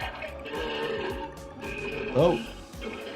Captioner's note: creature groaning